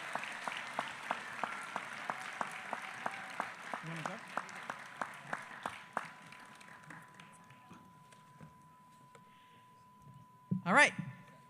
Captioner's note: applause